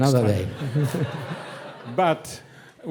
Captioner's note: audience laughing